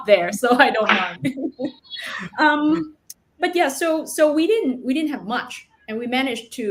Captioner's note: laughs